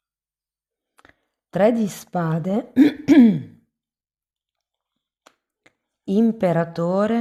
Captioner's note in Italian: schiarire la voce